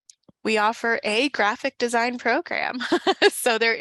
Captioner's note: chuckles